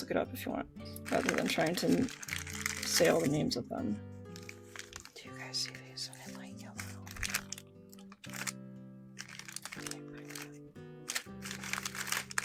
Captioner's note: whispering